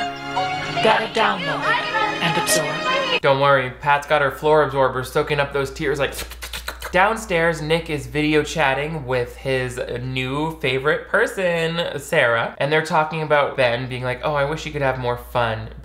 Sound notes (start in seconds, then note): 6.1 slurps